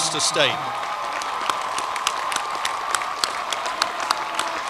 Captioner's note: cheering and applause